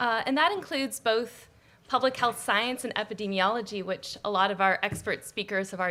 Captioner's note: none